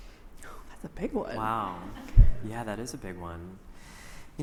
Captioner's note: sighs